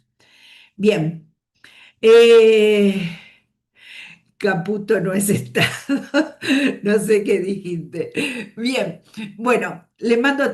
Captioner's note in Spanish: risas